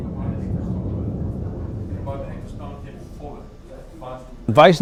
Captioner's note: distant people chattering